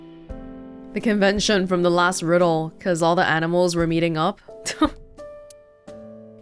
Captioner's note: chuckles